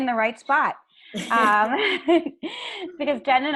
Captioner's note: laughing